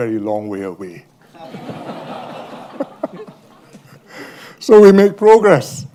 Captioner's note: laughter